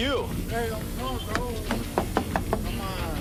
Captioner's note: knocking on window